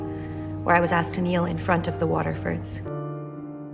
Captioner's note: voiceover